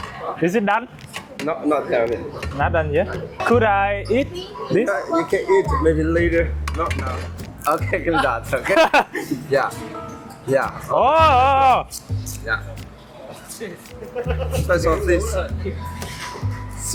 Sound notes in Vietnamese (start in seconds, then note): 8.5 tiếng cười